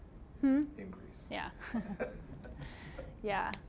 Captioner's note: chuckling